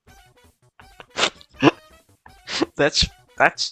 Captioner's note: laughs